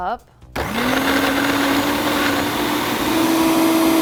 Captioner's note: blender whirring